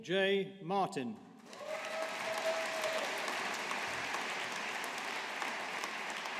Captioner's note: audience applauding